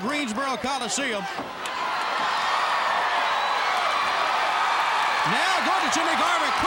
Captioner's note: crowd cheering